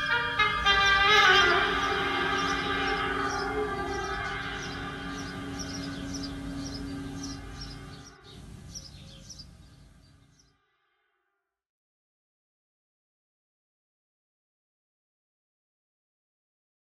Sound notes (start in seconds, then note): 3.8 birds chirruping